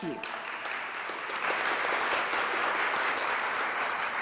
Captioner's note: audience applauds